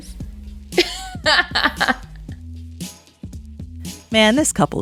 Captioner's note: laughs